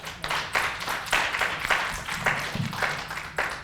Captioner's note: applauding